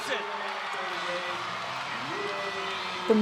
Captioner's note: spectators cheering